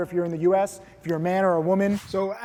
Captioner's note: air whooshes